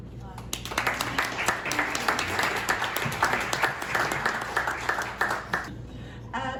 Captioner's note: applause